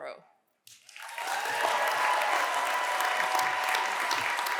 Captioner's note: cheers and applause